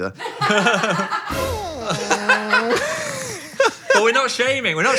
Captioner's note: crew laughing